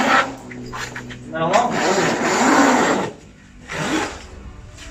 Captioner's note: zipper